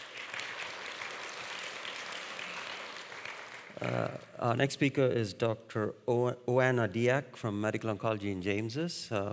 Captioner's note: audience applauding